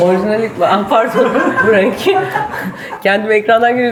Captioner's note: laughs